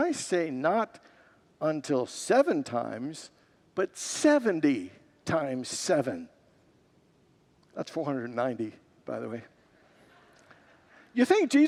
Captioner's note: congregants laugh